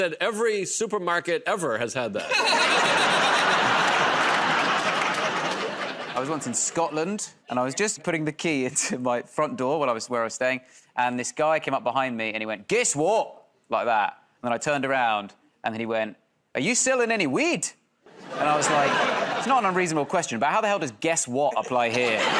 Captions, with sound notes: And I said, "Every supermarket ever has had that." [ Laughter ] -I was once in Scotland, and I was just putting the key into my front door where I was staying, and this guy came up behind me and he went, "Guess what?" Like that. Then I turned around and then he went, "Are you selling any weed?" And I was like, "It's not an unreasonable question, but how the hell does 'Guess what?' apply here?"